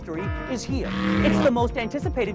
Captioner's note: engine revving